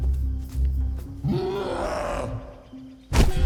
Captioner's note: cyclops roaring